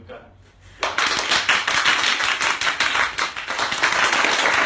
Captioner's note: applause